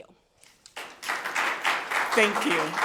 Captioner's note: people clapping